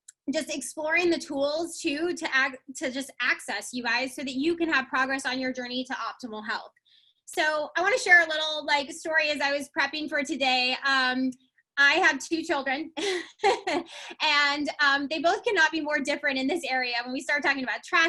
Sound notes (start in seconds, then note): 13.0 laughs